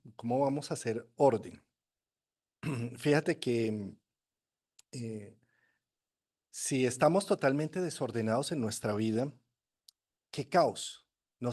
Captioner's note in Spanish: carraspeo